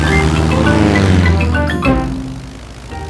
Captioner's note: plane engine revving